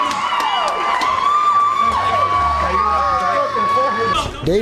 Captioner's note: fight & crowd noise